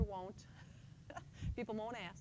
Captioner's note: chuckles